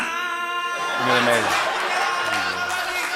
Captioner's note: laughter and applause